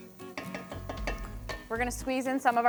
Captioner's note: spoon knocking